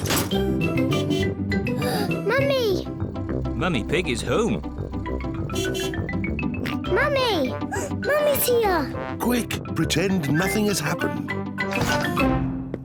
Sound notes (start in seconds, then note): 0.8 horn beeps; 1.7 gasps; 5.4 horn beeps; 6.3 oinks; 7.7 gasps